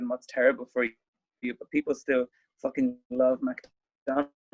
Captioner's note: audio blurs